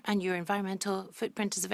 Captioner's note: speaking French